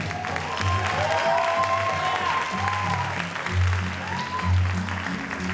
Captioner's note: audience cheers and applauds